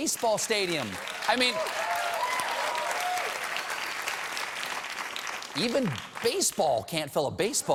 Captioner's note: applause